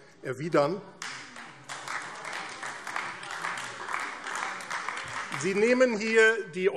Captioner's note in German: Beifall AfD